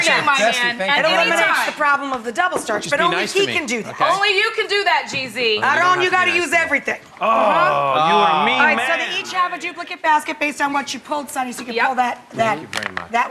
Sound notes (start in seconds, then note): 7.7 grunts